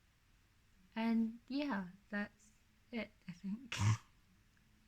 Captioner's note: snorts